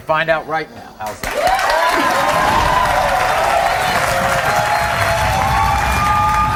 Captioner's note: audience applauding; audience cheering